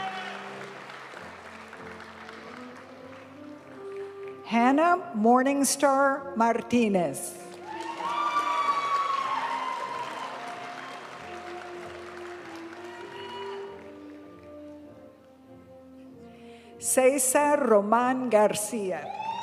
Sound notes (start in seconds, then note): 0.0 audience cheering and applauding; 0.2 graduation music; 7.5 audience cheering and applauding; 10.7 graduation music